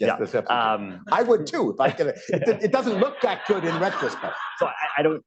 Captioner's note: laughter